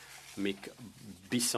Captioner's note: speaking French